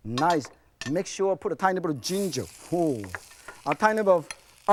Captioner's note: sizzling